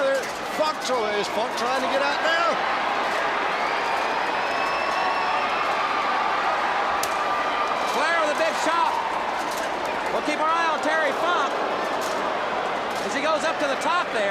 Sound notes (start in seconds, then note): 8.1 crowd cheering